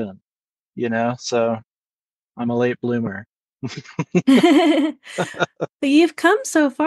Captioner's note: laugh